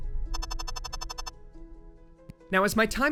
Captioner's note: text beeping